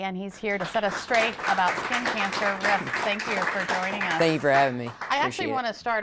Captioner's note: applause